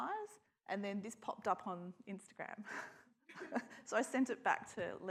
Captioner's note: laughs